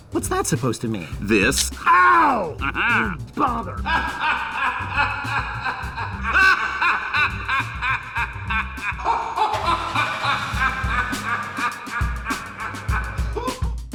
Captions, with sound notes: What's that supposed to mean? This! Ow! (laughing)